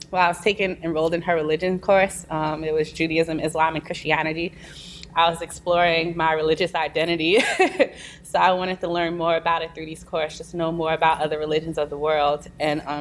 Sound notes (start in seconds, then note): 7.4 laughs